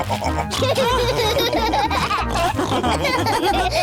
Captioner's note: laugh and snorts; all laughing